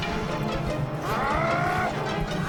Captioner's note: growls